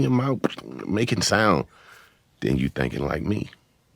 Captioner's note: beat boxing